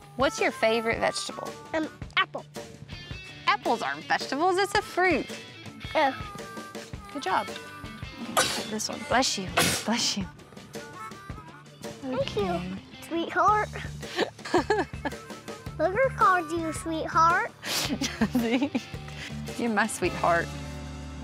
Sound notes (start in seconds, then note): 9.5 sneezing; 14.1 giggling